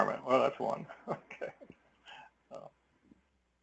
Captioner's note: laugh